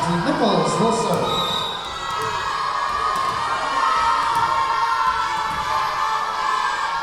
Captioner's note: whistle blowing; yelling